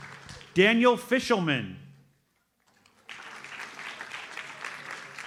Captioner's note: audience applauds